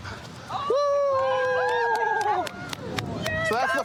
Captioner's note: cheering